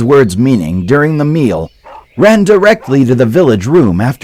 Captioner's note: dog barking